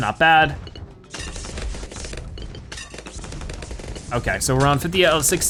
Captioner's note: weapons firing